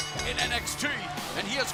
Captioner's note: bell ringing